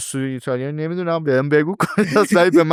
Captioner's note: laughs